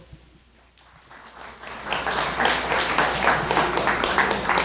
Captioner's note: crowd clapping